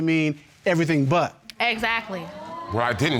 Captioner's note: audience exclaiming